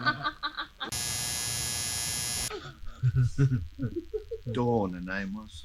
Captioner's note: Andrea laughs; electric buzzing